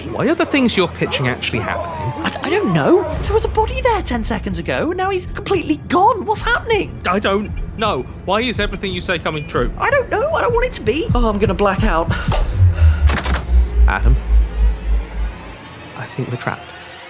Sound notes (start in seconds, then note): 13.1 door closes